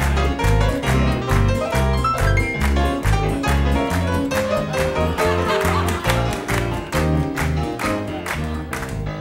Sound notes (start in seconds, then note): 4.5 people laughing